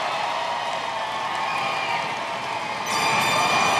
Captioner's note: cheers and applause